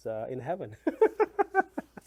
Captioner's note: laughs